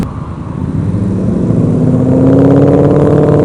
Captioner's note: Mustang accelerates loudly